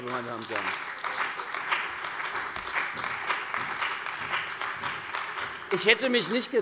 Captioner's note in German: Beifall bei der CDU und dem BÜNDNIS 90/DIE GRÜNEN